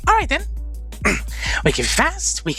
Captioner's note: clears Throat